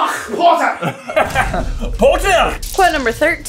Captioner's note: laughter